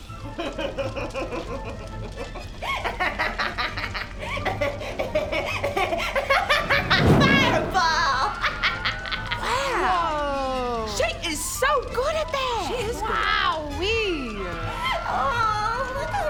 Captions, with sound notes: *evil Nixie giggle* *evil laugh* Fireball! Wow Woahhh She is so good at that She is good Wowee! Aww, look how